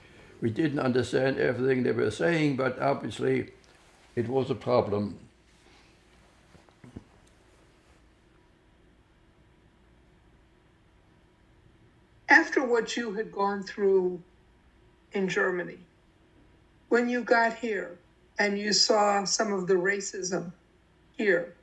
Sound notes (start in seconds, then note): 4.8 wiping nose; 7.2 pauses 6 seconds